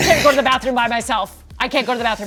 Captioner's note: Dave laughing